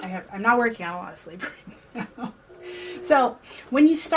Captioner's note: laughs